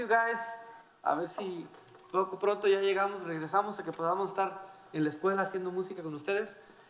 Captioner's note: speaking in foreign language